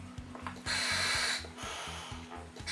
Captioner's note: inhale